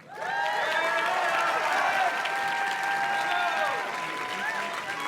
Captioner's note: audience cheers and claps